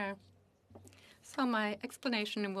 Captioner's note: speaking FRENCH